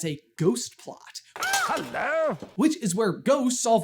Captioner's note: scream